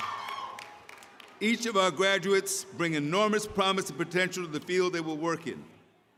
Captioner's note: cheering